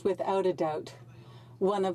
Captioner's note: speaking French